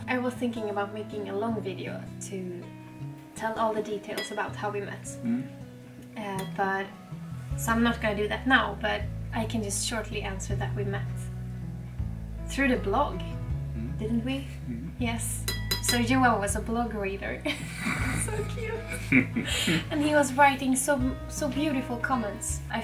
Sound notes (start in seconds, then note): 17.4 both laugh